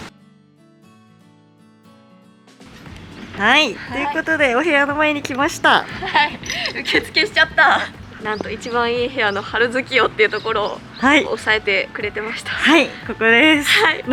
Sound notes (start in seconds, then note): 5.8 laughs